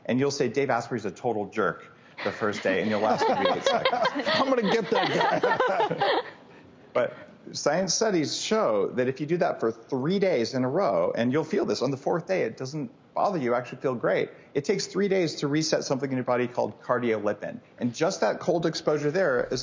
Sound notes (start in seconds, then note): 3.9 all laughing